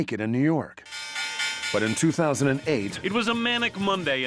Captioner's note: bells clanging